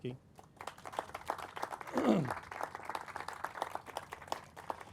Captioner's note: crowd applauding